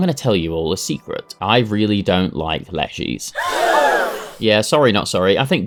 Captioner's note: crowd gasp